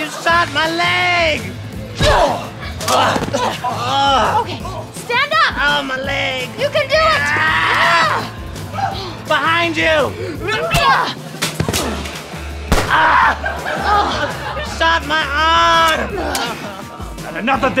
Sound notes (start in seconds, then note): 12.7 gunshot